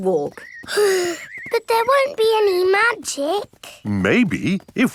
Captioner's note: sighs